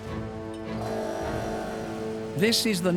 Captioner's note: buzzing